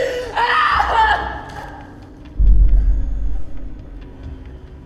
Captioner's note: Elizabeth screaming